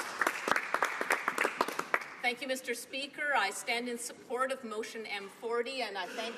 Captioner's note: some Applause